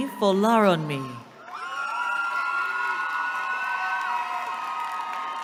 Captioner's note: cheering